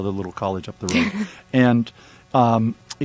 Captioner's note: laughs